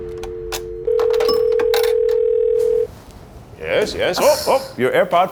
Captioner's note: dial tones beeps